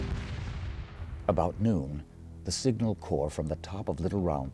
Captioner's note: voiceover